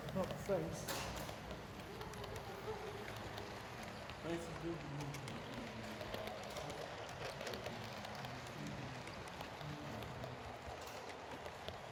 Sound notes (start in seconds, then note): 0.0 clickity clacks righteously take over